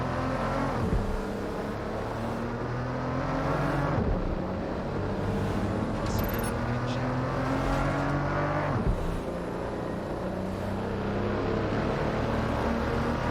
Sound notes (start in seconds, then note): none